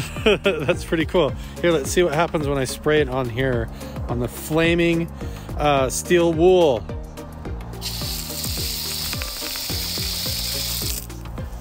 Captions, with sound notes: (laughs) that's pretty cool. Here, let's see what happens when I spray it on here, on the flaming steel wool. (water spraying)